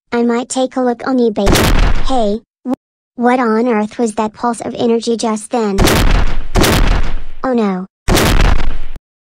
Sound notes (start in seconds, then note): 1.5 loud pulse; 5.8 loud energy pulses again